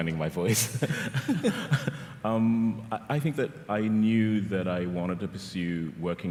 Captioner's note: chuckles